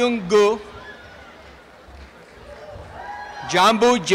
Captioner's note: applause and cheering